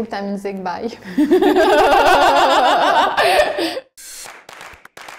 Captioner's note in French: rires